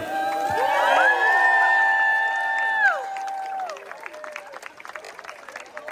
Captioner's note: audience Applauding; audience Cheering